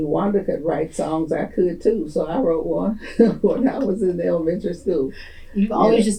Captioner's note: laughs